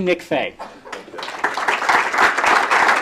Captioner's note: applause